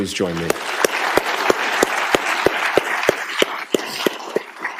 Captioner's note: applause